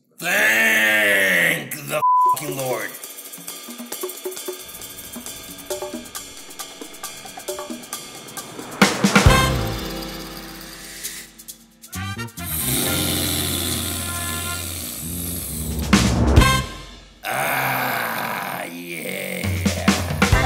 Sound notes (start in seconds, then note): 12.4 snorts